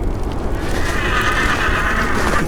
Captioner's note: horse neighs